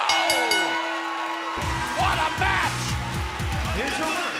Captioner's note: bell ringing